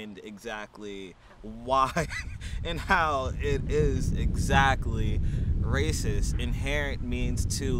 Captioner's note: chuckles